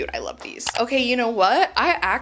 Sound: mouse clicks

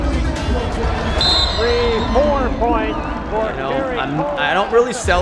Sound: whistle

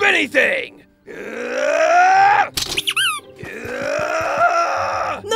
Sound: Wolverine grunting

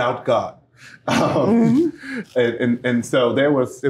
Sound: laughter

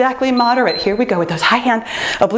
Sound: timer beeps

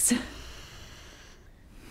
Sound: inhales

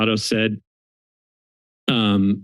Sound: silence

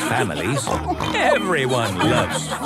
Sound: snorts

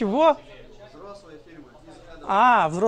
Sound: crowd

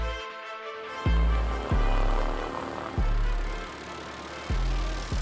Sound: aircraft blades whirring

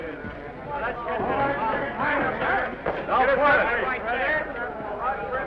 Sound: chattering

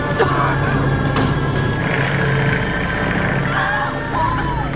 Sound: Laura coughing; girls cheering

